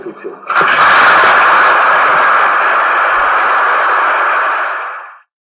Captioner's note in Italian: Applausi del pubblico, n.d.t